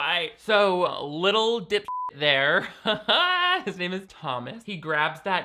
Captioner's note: beep